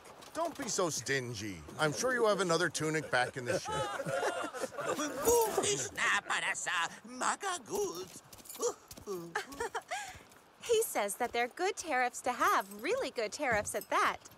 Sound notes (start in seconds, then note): 2.8 crew laughs; 9.0 samar giggles